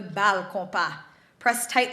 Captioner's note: speaks foreign language